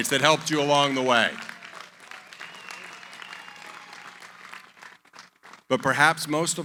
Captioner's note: applause